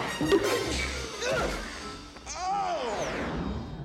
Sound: groans

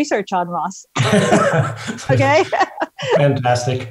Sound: laughs

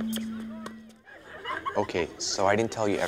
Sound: students laughing

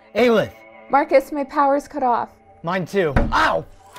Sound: something knocks against a wall

